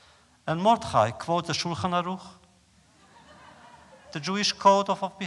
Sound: laughter

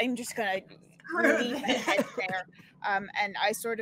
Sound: all laughing

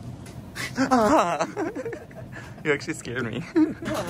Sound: gasps; both laugh

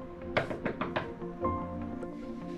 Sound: knock on door

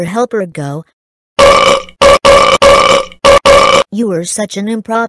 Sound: loud burping

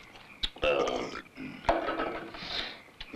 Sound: belches

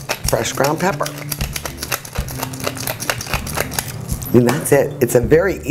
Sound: pepper mill clacking

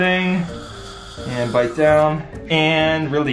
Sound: air whooshing

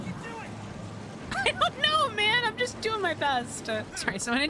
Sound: laughing

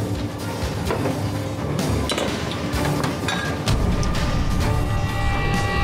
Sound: bottles clink down; intense music

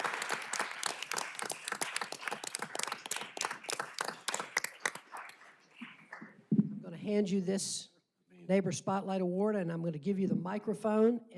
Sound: applause

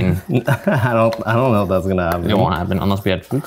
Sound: laughing

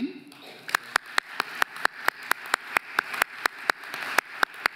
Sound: audience applauding

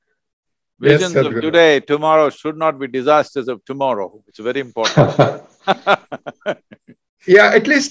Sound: laughter

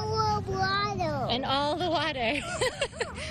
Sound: laughs

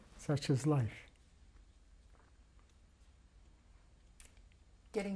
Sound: pauses for 3 seconds

